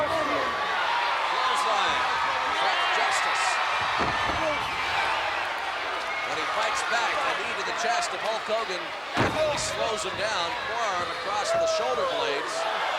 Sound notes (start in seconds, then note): 0.2 body thudding; 3.6 blows thudding; 9.1 blows thudding